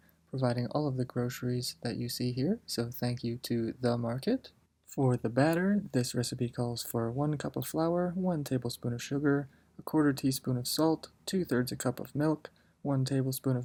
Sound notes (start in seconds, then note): none